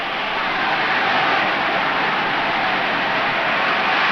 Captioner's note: crowd cheers